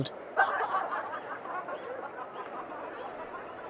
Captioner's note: laughing